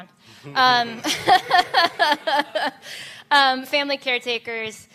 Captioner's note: laughter